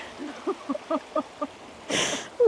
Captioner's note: laughter